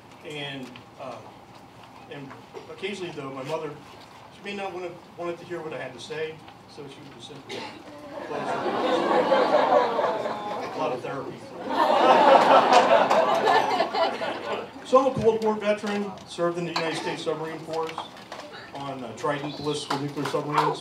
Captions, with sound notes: And occasionally though, my mother she may not have wanted to hear what I had to say so she would simply close her eyes [Laughter] A lot of therapy for that. [Laughter] So I'm a Cold War veteran. Served in the United States Submarine Corps on Trident